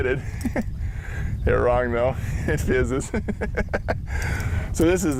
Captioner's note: laugh